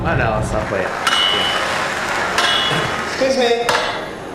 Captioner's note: clanging noise